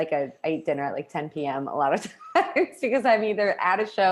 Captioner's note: laughs